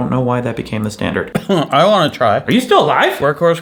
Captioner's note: coughs